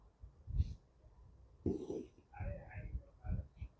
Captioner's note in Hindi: नाक से की जाने वाली आवाज़